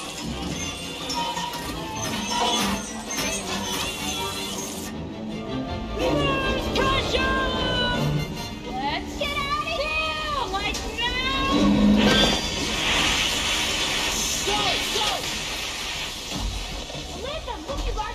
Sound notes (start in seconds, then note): 0.2 water flowing; 13.8 water pipe breaks